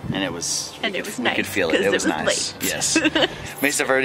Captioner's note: laughs